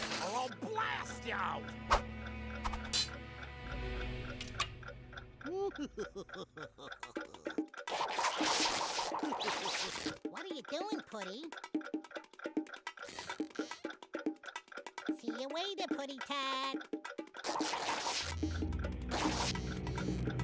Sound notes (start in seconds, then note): 5.4 laughing maliciously; 7.0 clock ticking; 12.3 clock ticking